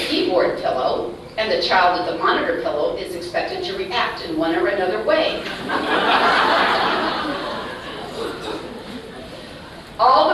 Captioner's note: laughter